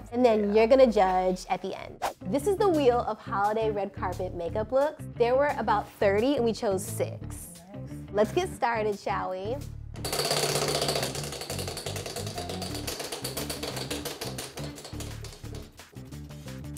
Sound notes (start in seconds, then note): 10.0 wheel clicking